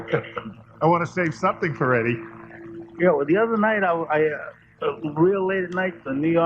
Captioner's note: laughter